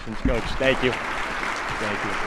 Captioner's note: attendees clapping